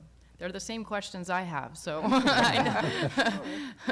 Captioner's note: laughter